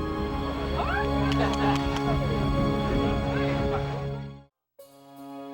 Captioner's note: volunteers exclaiming